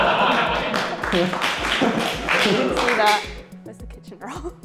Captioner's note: laughter; applause